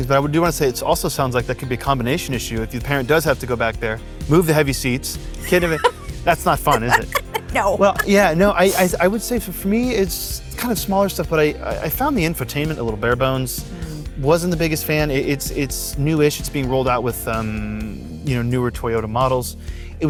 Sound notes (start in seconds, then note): 6.4 laughs